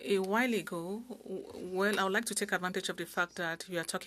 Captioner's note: speaking French